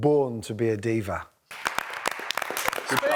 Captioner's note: applause